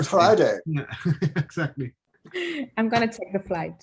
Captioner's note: chuckling